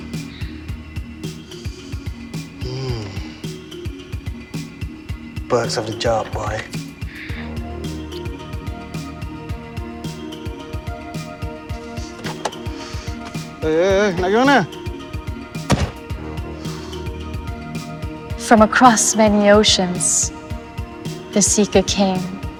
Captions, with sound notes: Mm. (slow electronic music) Perks of the job, boy. (slow electronic music) (speaking in foreign language) (car door slams) - From across many oceans, the seeker came.